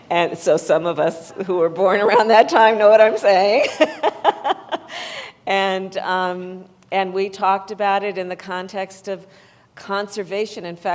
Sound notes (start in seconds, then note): 3.7 laughs